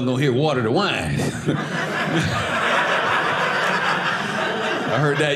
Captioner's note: audience laughing